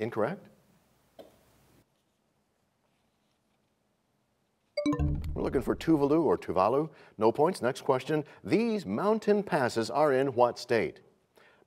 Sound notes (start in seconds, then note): 4.8 bell chimes, time expires